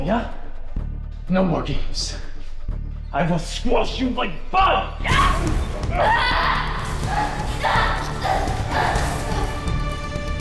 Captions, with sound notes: That was different move, yeah? No more games, I will squash you like bug! (Anya cries out)